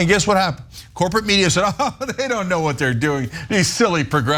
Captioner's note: laugh